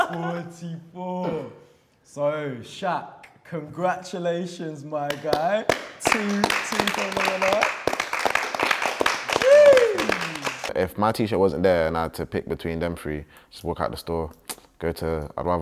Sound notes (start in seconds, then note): 0.0 laughing; 6.9 murmuring; 8.6 applauding